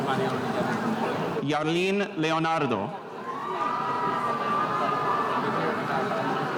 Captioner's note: spectators cheering